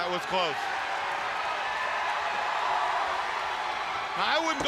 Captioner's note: crowd cheering